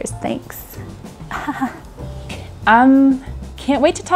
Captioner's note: laughs